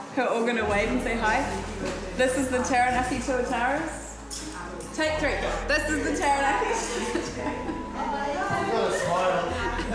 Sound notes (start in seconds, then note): 6.7 chuckles